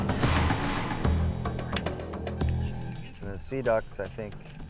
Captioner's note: gunshot